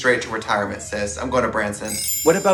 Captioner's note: glittering sound